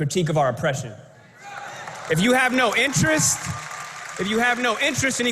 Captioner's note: applause